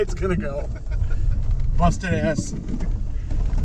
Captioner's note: laughing